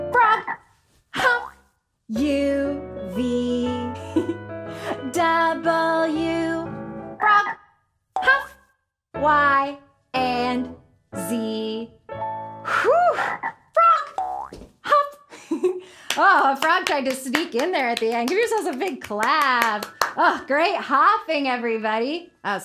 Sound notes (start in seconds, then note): 15.4 giggles